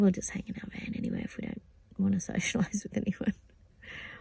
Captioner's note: scoffs